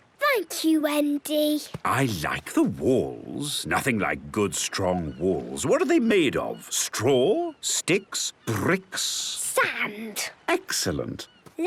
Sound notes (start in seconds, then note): none